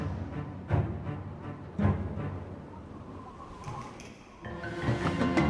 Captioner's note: dramatic music; wind whistles